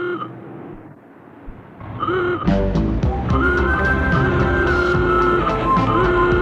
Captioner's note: horn honking; romantic 50s music